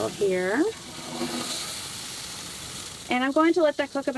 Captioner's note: grill sizzling